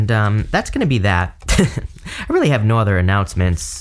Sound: chuckles

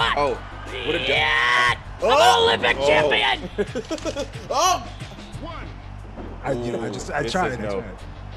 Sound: laugh

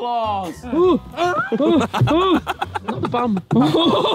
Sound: groaning; laughing; all laughing

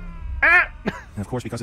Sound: odd voice, lightly laughs once

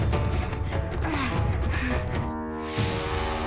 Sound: groaning

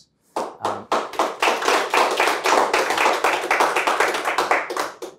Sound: audience applauding

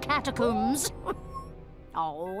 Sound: moaning with excitement

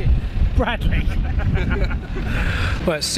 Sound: laughter

